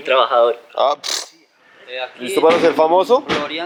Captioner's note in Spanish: resoplido